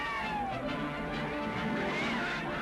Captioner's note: screaming